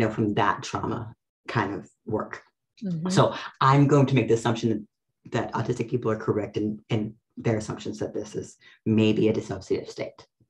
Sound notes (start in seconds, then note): none